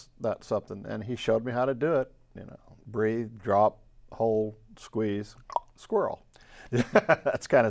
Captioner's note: laughs